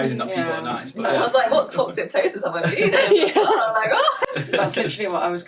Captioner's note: laughter